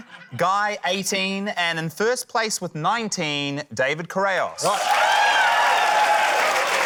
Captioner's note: cheering, applause